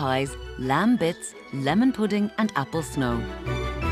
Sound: none

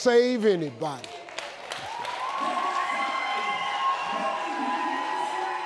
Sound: audience applauding

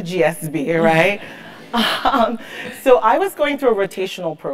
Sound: laugh

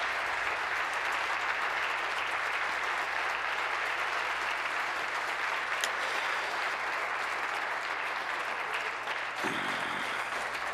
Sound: applause

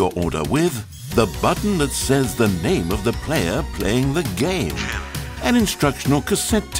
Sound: button audio saying "Jim"

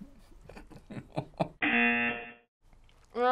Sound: chuckles; buzzer

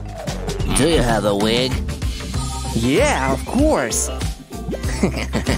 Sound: grumbles

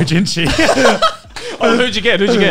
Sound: laughs

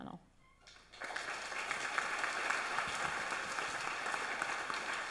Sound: audience applauds

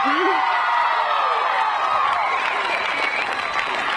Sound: audience cheering

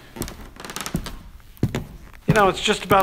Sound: floor creaking

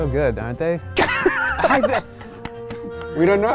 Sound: laughing

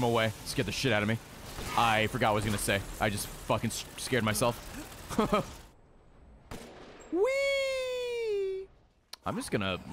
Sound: laughs

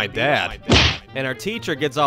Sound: thwack!

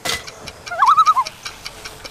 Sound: loon calls

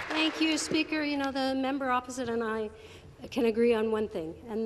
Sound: applause

